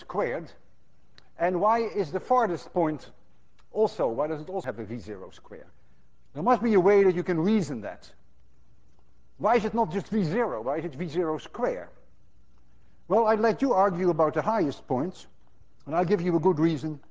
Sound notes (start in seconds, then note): none